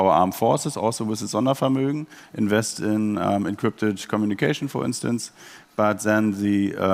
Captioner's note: German words